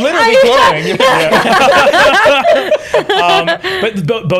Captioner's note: laughter